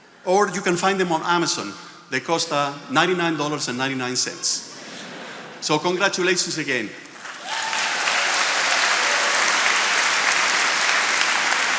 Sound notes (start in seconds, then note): 7.1 attendees applauding